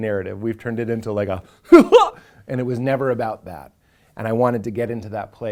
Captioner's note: hearty chuckle